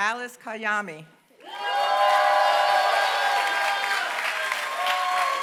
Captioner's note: applause